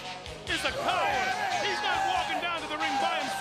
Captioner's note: crowd chatter